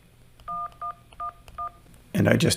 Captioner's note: phone beeps